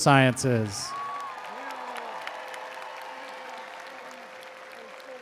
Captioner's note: attendees applauding